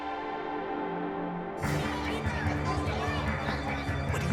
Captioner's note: hum of many conversations